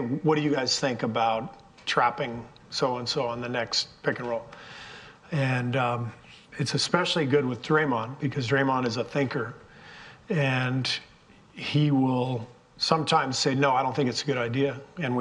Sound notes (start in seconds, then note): none